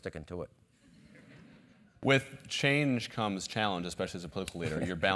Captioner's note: laugh